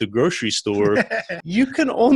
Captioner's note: laughs